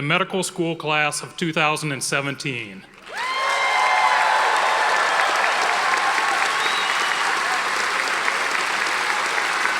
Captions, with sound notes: for the medical school class of 2017. (audience applauding and cheering)